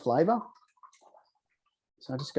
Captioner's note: vinegar bubbling